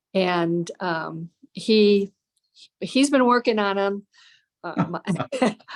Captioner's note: laughter